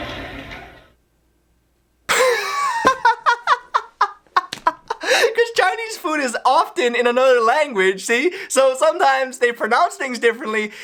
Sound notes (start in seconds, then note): 2.1 cracks himself up